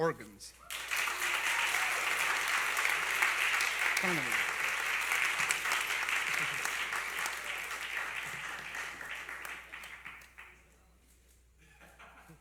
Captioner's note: applause